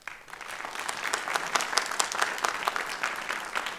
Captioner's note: applause